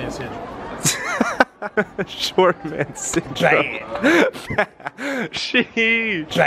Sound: laughs

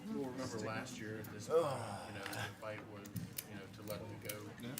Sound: attendees chattering

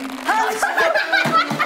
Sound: giggling

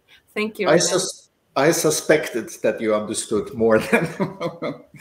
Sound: laughter

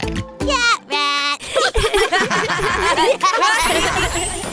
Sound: laughs

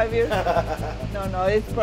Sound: laughing

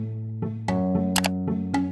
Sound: click

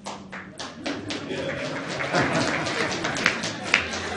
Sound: audience applauds

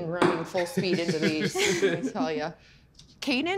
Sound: laughs

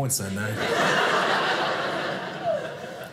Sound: audience laughing

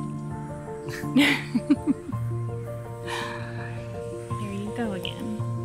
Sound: light piano music; both laugh lightly

